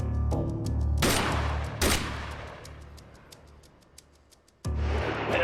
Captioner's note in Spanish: Disparos